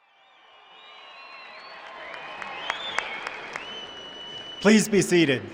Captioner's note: cheering